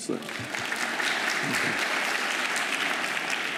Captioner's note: applause